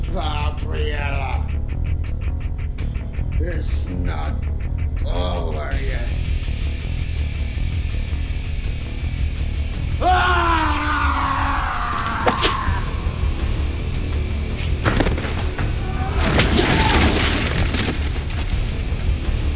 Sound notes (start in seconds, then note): 10.0 Gundra screams; 16.2 clattering; 16.3 air whipping